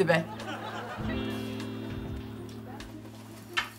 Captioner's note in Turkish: Gülme efekti